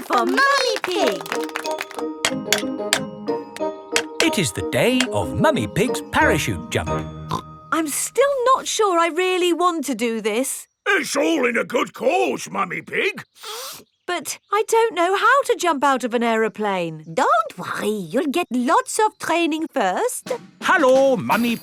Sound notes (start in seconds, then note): 3.9 clanking; 13.2 sniffs